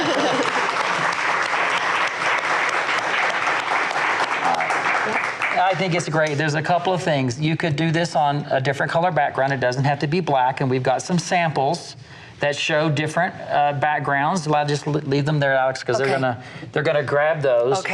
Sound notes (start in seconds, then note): 0.0 laughs; 1.6 audience applauds